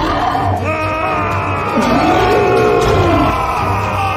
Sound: shouting

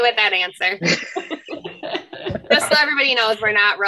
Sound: laughs; all laugh

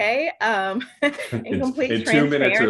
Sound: laughs

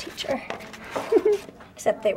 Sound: laughs

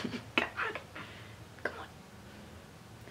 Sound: whispering

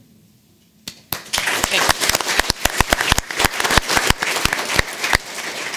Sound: audience applauding

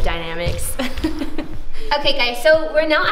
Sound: laughs

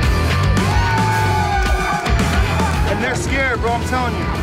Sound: crowd cheering

